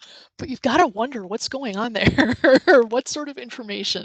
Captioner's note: laughs